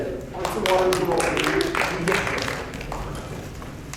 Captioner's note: clapping